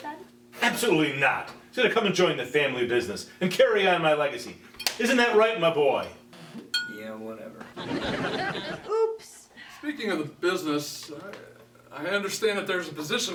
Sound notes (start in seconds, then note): 3.2 slap